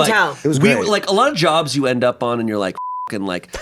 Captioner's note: beep